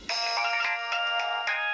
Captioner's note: phone ringing